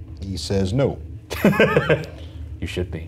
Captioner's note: chuckling